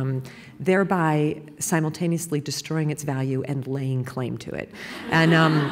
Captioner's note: laughter